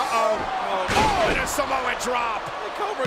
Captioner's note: wrestler thuds